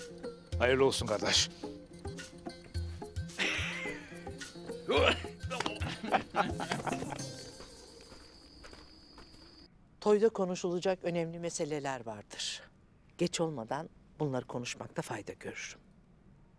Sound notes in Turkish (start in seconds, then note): 3.2 Gülme sesleri